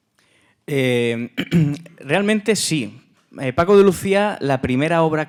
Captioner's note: speaking in Spanish